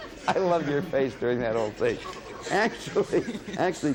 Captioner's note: laughing